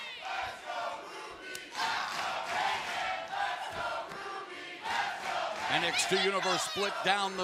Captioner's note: fans chanting